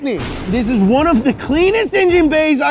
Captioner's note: explosion